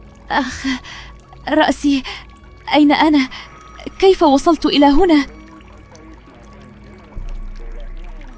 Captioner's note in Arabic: تنهّد; شهيق